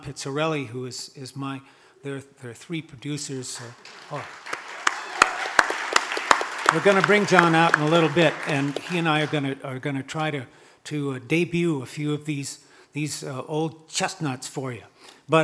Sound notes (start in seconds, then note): 3.6 audience applauding